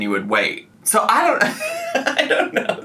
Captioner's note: laughs